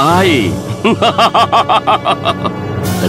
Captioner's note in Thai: หัวเราะ